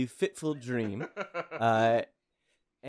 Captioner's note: laughing